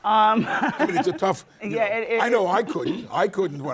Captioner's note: laughs